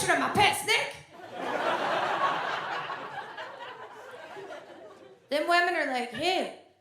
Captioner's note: audience laughs